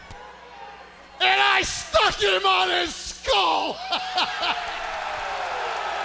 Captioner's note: laughs; audience cheers